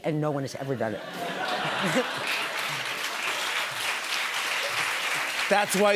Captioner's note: laughter and applause